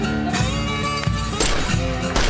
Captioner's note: gunfire